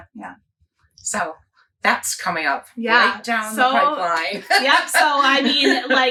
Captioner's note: laughs